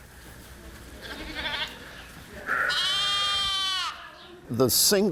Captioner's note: lambs bleating